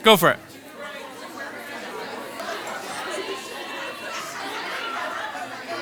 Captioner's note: participants conversing